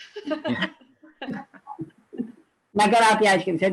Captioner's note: laughing loudly